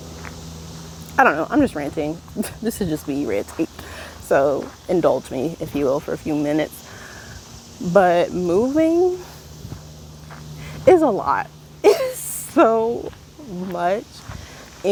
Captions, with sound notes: I don't know, I'm just ranting. this is just me ranting. so, indulge me, if you will, for a few minutes. but moving.... is a lot. *laughs in frustration, anxiety, and disbelief* It's so much!